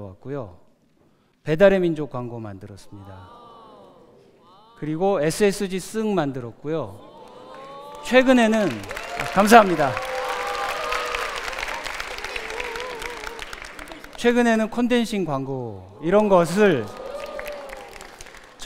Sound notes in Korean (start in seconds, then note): 2.8 감탄; 7.5 감탄; 10.6 박수; 16.2 박수